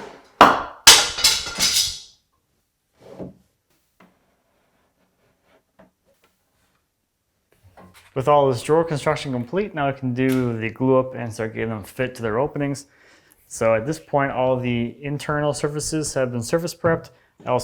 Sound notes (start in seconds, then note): 0.1 drawer scraping; 0.8 falling plank clattering